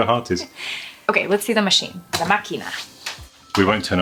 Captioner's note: speaking Jewish